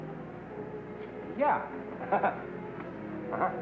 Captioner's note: laughs nervously